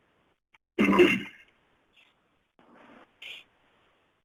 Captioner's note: coughs